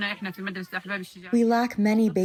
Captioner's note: through translator